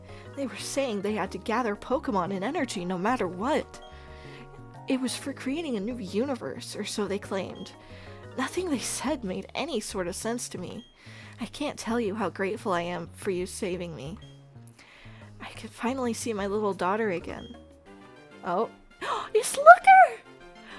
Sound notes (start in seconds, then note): 19.0 gasp